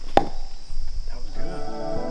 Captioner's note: tree knocks